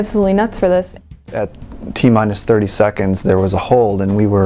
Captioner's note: voiceover